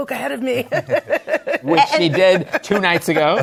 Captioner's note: laughs